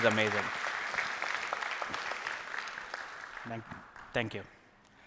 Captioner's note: applause